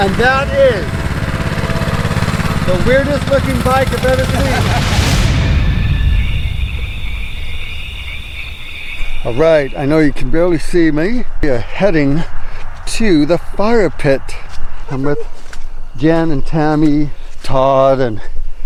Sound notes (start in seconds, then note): 3.8 laughing; 5.0 insects calling; 5.9 eerie music